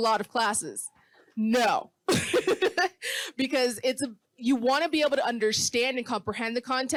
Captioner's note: laughing